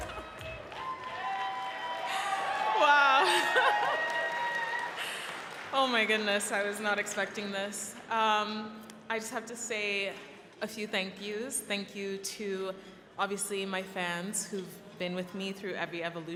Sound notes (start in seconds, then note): 4.5 cheering and applause